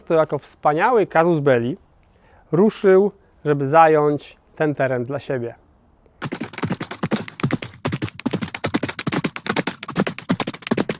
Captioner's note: running horses